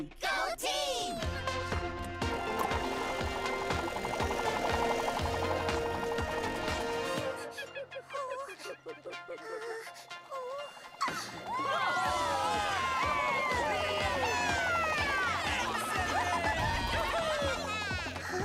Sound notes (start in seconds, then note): 1.7 propellors whirring; 7.0 monkeys chittering; 9.3 gasps; 11.3 all cheering